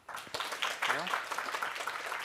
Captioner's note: applause